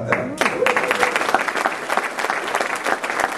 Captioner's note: applause